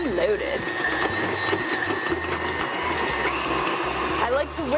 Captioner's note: whirring sounds